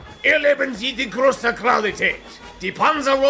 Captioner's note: talks in German, sort